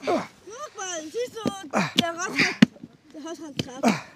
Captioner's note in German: Sie ächzen